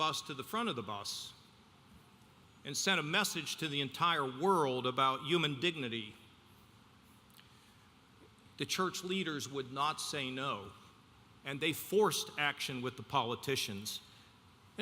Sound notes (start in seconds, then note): none